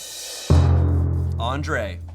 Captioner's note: thud booms